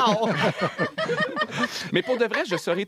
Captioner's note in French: rires